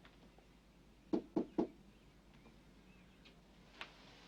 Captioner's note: door knocks